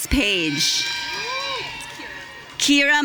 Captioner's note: audience cheering